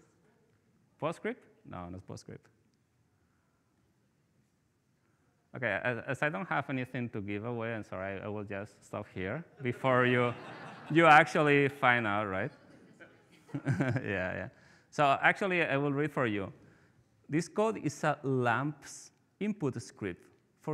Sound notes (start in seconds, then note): 9.6 participants laughing; 12.3 chuckles; 12.3 participants laughing